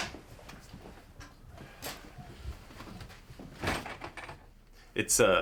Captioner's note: door closes